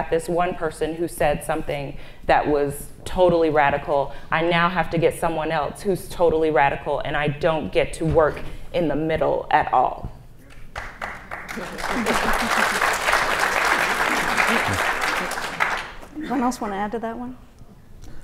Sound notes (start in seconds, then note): 10.5 audience applauds